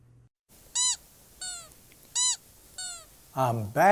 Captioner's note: shoes squeaking